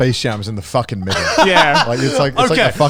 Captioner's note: laughs